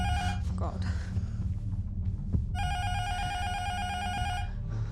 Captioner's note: intercom buzzer rings